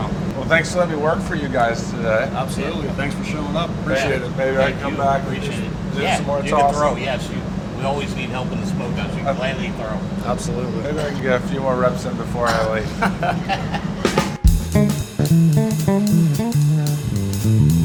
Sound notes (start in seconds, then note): 12.4 laughter